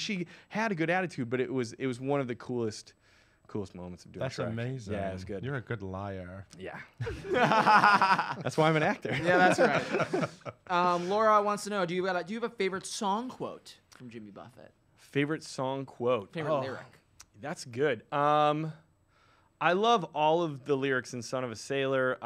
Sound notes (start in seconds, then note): 7.0 laughs